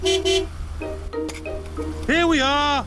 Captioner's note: honks horn